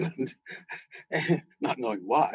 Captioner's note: laughter